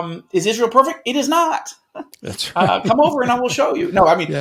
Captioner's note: chuckling